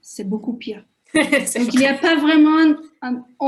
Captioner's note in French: Rires